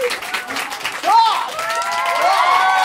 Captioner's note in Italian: applausi